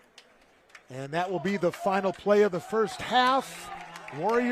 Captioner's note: applause